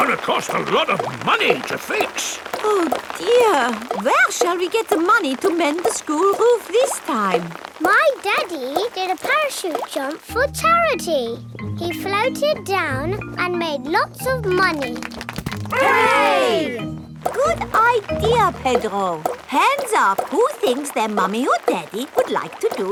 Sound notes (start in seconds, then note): 14.6 crowd applauding